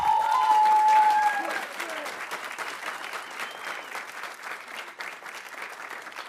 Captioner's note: audience cheering; audience applauding